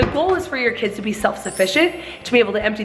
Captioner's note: bell chimes